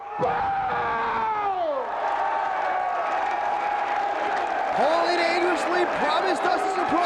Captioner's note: applause